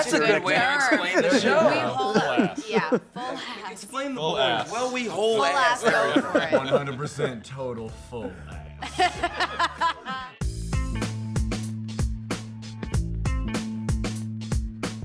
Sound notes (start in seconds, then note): 5.2 laughs; 8.7 laughter